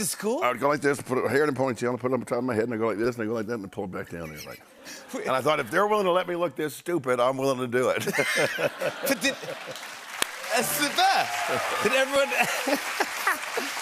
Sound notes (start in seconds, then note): 8.0 laughter and applause; 12.2 laughs